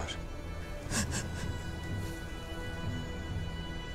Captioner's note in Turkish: Ağlama sesleri